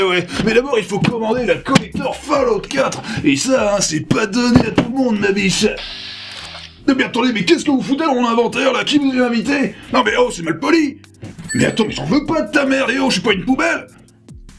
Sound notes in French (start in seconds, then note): 11.5 bruit de caisse enregistreuse